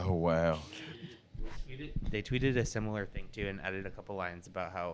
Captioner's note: both laughing